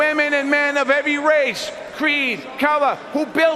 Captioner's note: crowd noise